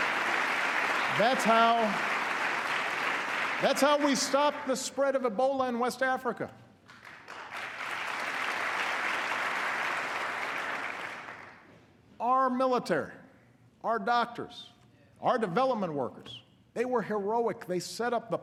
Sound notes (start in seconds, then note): 9.3 applause